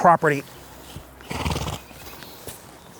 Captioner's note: horse nickers